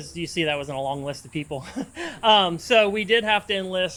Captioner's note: laughs